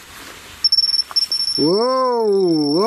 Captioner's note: alarm ringing